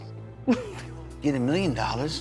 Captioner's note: Lolita chuckles